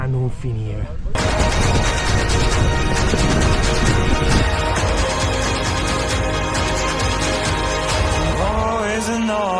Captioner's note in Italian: Applauso